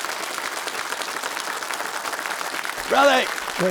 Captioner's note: audience applauding